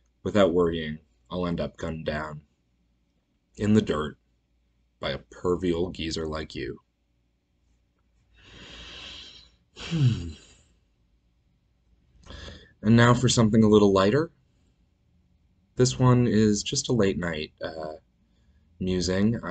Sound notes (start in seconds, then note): 6.8 sighs